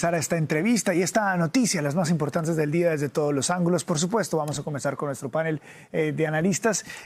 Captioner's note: HABLA EN INGLéS